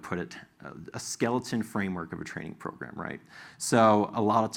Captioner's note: sigh